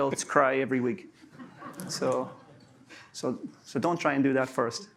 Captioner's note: laughter